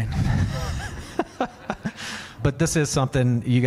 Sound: laughs

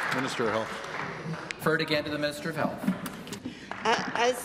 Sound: applause

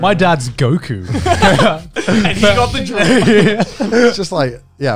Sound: everyone laughs

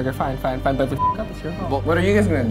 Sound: beeps

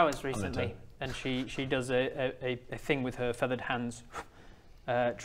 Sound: pff

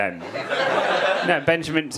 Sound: audience laughing

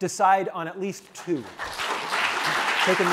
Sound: applause

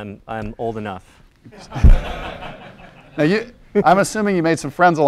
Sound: laugh

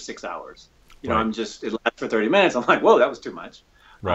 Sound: audio skips

